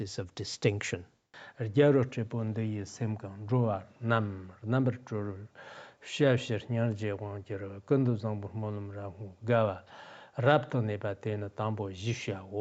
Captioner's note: giving oral transmission in Tibetan